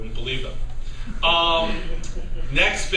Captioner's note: laughter